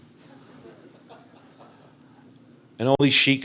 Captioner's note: crowd laughs